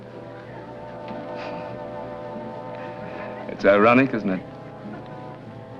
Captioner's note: chuckles